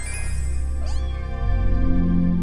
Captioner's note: cat meowing